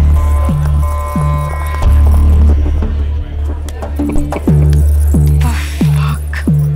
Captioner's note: Man laughing